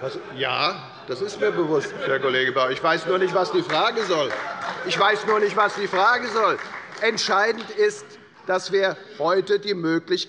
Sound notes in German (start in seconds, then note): 5.4 Beifall bei Abgeordneten der SPD